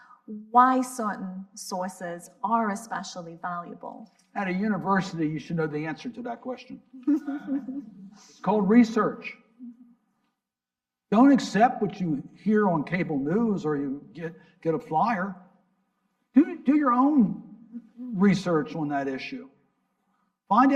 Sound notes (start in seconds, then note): 7.0 laughs; 7.1 audience laughing